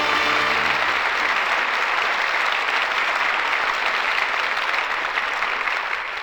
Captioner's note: applause